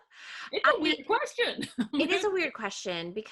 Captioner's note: laughing